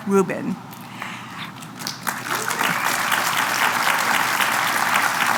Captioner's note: applause